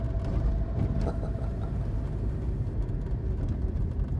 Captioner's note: Ricky chuckling